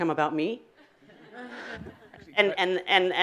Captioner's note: audience laughing